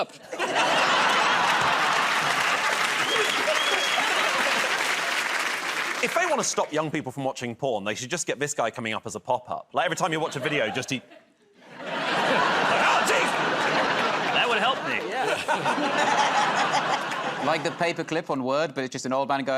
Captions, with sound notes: [ Laughter ] [ Applause ] -If they want to stop young people from watching porn, they should just get this guy coming up as a pop up. Like, every time you watch a video, just he -- "Ah, jeez!" -That would help me. [ Laughter ] -Like the paper clip on Word, but it's just an old band going,